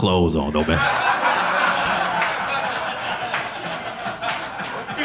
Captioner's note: audience laughing